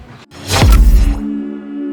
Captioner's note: logo thumps; gentle music